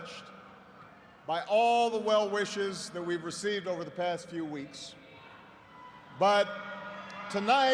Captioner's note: cheers and applause